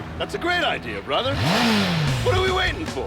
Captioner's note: engine revs